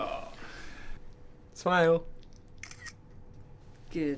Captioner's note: camera Click